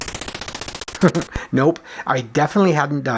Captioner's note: chuckles